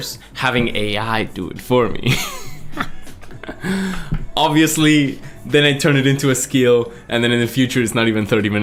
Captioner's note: laughs